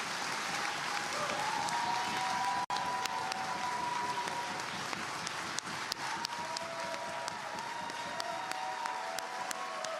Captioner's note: applause